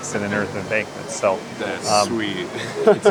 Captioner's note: pat